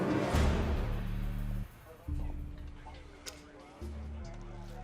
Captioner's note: overlapping chatter